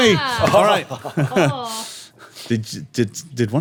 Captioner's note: laughing